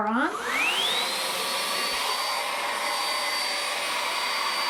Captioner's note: vacuum buzzing